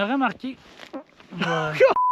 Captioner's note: fart